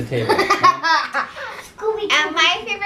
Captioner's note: laughter